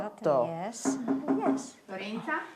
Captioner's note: door knocking